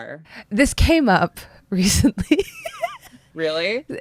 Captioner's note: laughter